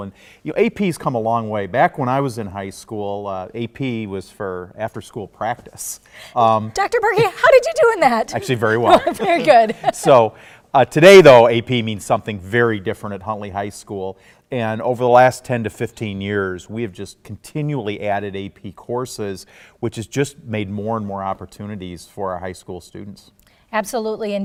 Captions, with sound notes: AP's come a long way from back when I was in high school. "AP" was for after-school practice! Dr. Burkey, how did you do in that? Actually, very well. (Laughs) Well, good! Today, though, AP means something very different at Huntley High School. Over the last 10 to 15 years we've just continually added AP courses, which has just made more and more opportunities for our high school students.